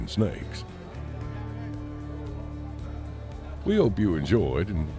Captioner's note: crowds chattering